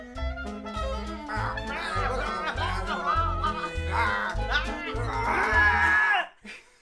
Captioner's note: shouting